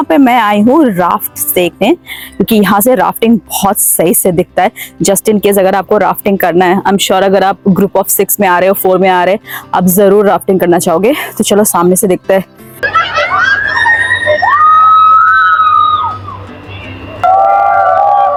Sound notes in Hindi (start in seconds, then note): 12.9 चीखने की आवाज़